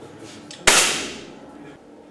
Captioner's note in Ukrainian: Звук пострілу